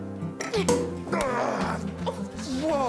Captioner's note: cork popping; groaning